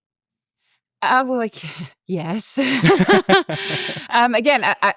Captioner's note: laugh